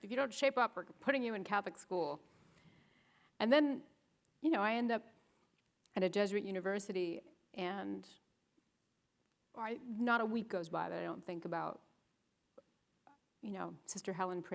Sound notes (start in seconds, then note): none